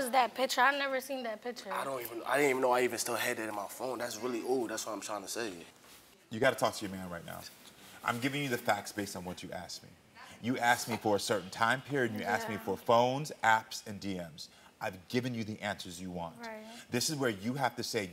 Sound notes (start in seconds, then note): none